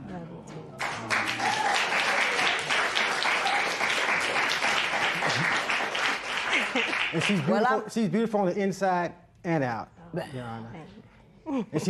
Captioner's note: cheers and applause